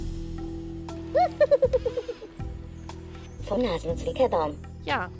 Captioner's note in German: Lacht